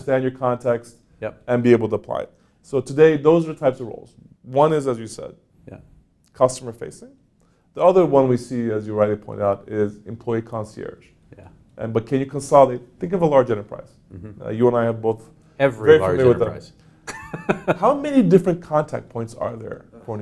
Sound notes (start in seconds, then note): 17.0 laughs